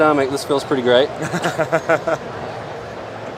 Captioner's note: laughing